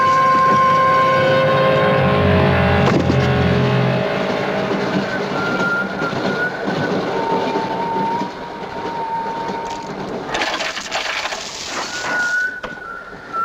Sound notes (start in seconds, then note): 1.9 tuneful whistling; 9.0 whistling